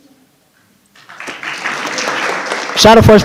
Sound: audience applauding

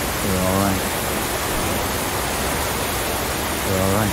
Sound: water falling

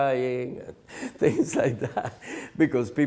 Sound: laughs

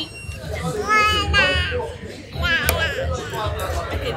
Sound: babbling

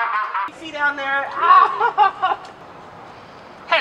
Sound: maniacal Laugh; unsuspecting Chatter

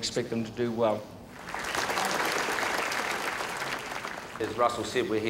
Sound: audience applauds

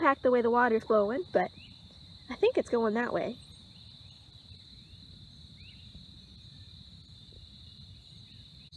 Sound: crickets and bird chirping

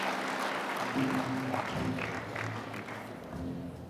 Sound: applause

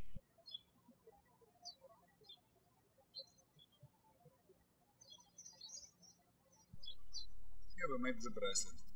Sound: birds chirping

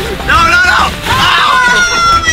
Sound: screaming

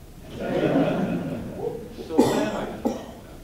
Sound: audience laughing

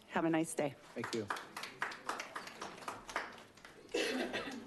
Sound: attendees applauding

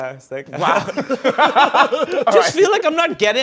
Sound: laughter

